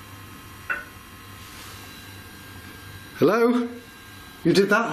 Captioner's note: metallic tapping